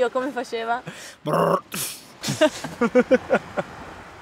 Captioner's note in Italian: Car noises